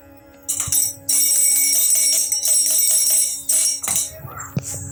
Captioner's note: ringing the bell